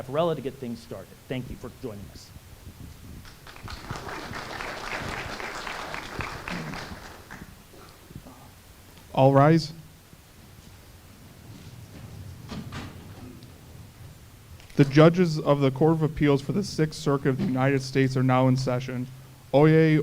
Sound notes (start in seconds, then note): 7.2 applause